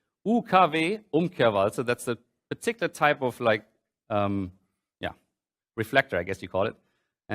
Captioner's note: german